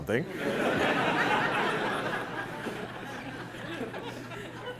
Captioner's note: laughter